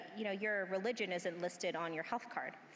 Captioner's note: none